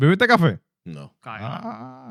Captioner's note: non-english Speech